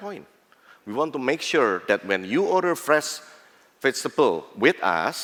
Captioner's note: non-english